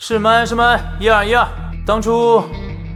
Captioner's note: microphone test